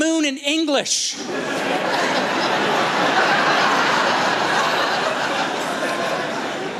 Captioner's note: laughter